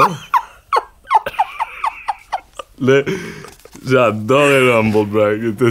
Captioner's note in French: rires